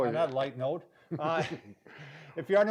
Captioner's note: laughing